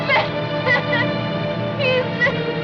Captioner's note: sobs